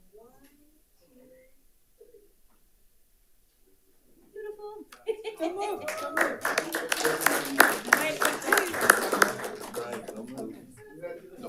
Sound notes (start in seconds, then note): 4.9 laughs; 5.3 group applauds